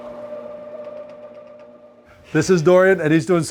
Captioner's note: machine whirring